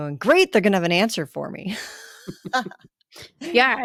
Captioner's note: laughter